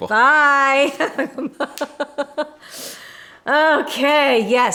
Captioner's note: laughing